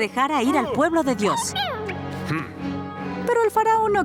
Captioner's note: squeaking